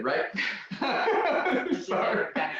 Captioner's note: laughter